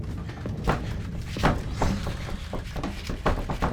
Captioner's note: door clattering